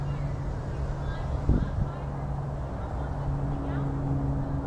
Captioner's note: airplane